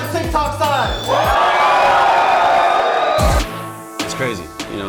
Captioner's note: audibly louder cheering